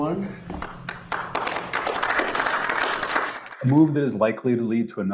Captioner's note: audience clapping